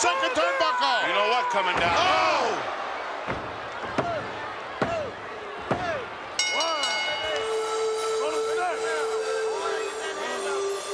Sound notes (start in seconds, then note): 6.3 bell rings; 8.0 peaceful music